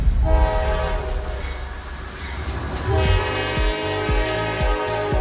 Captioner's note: train horn blaring